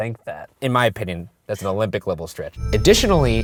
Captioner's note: voiceover